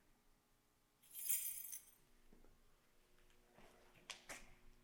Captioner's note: keys clanging